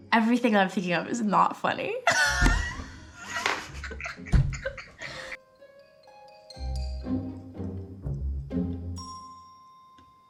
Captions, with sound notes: Everything I'm thinking of is not funny. [Ayo laughs] [whimsical music continues]